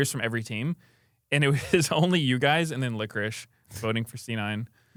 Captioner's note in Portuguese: risos